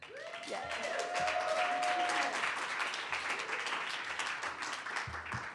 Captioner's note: audience cheers and applause